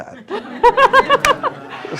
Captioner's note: laughter